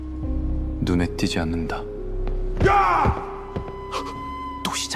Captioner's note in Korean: 비명